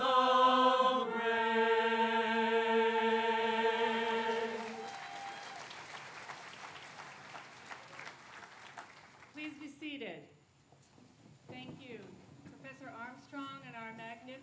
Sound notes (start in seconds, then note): 4.2 applause